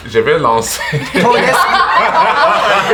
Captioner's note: the group bursts out laughing